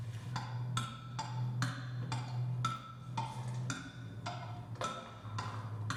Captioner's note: rhythmic ticking